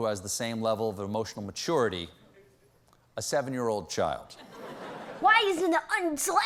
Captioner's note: in child's voice